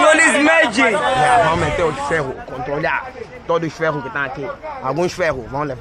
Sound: speaks Portuguese; speaking Portuguese

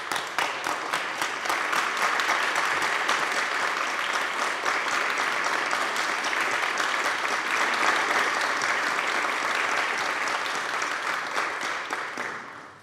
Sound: applause

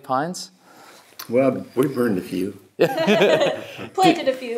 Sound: laughs

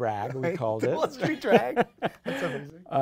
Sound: laughing

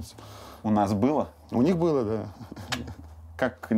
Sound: Dud clicks tongue

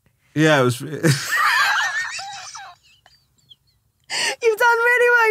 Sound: laughing

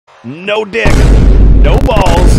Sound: boom

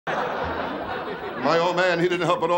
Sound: laughing

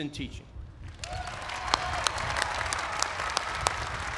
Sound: applause

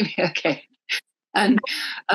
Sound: laughs

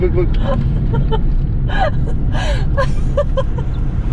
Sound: laughing

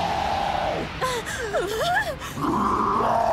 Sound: both gasp; roaring continues

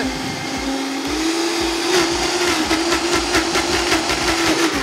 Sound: blender blending

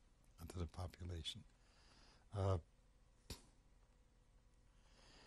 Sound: pauses for 3 seconds

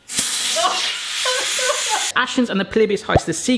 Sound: laughing

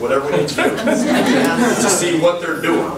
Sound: group laughs

